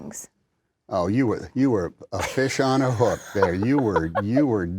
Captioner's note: laughter